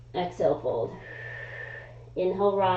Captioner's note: exhaling; inhaling